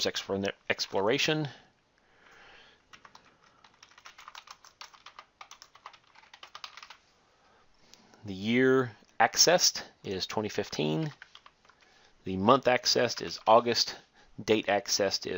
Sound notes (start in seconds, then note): 2.9 typing